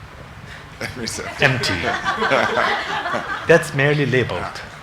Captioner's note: congregation laughing